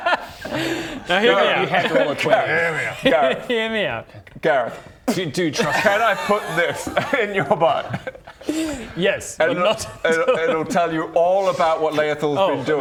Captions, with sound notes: Now hear me out You have to roll a 20 hear me out Gareth hear me out Gareth *spit* can I put this in your butt? yes but not it'll tell you all about what Laethil's been doing